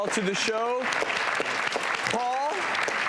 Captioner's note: audient clapping